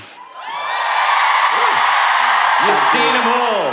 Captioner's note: cheering